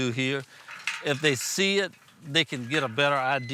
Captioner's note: gate rattling